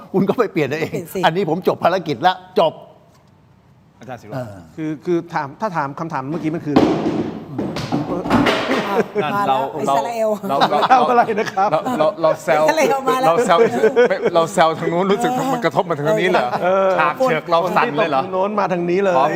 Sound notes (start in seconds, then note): 10.2 laughter